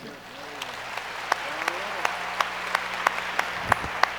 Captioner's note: audience applauds